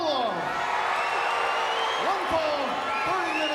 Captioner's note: fans cheering